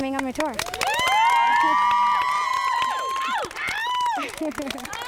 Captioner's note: cheering and applause